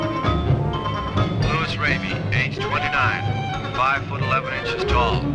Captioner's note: police Radio